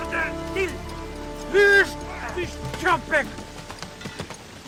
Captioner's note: Turkish